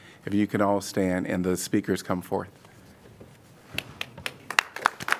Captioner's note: applause